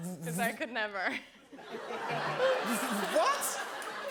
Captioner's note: laughter